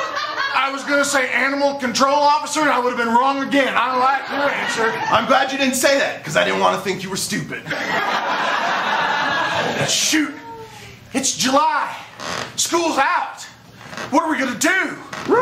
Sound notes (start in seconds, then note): 7.6 laughter